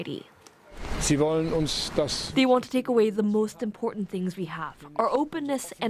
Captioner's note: speaking alternate language